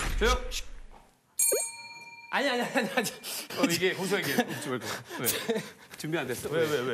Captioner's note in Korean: 띠링